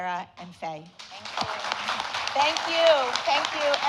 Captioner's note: audience applauding